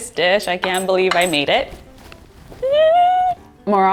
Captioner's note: squeals